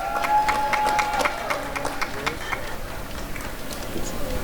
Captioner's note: applause and cheering